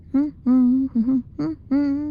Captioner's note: humming